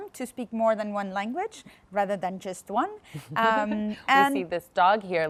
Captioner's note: laughs